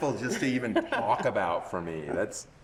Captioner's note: laughing